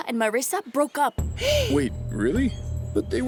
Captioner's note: Natalia gasps